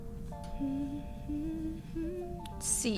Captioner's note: humming